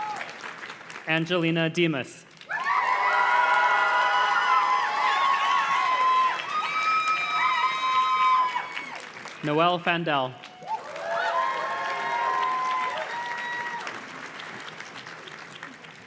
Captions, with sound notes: Angelina Dimas. (audience cheers and claps) Noelle Fandel. (audience cheers and claps)